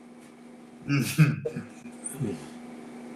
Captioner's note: chuckles